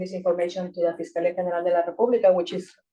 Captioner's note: speaking Spanish